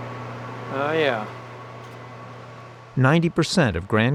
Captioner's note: servers humming